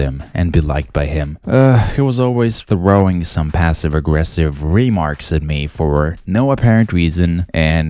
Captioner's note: sigh